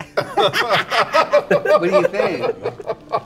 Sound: others laughing

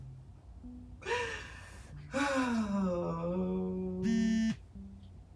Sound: Leanne sighs; phone buzzing

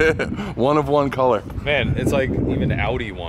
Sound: laughter

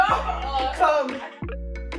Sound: laughs

